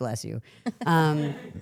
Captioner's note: participant chuckling; crew member chuckling